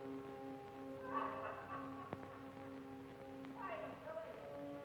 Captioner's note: happy laughing